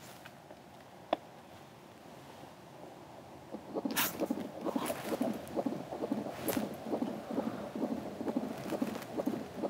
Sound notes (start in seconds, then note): 4.1 gasping; 4.2 heartbeat thumping